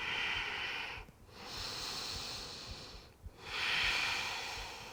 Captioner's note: exhaling and inhaling